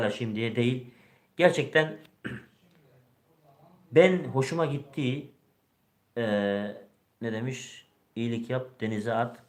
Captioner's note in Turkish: boğazını temizler